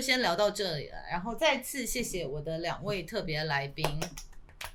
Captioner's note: clapping hands